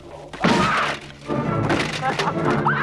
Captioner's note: armor clatters; both laughing